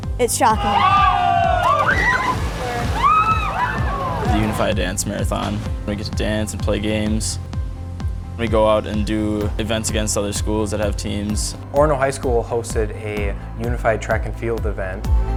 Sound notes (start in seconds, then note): 0.1 background music; 0.4 shrieking; 0.9 background music